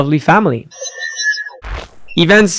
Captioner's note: machine whirring